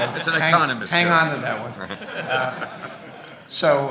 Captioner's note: audience laughing